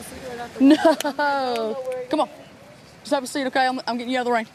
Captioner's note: laughs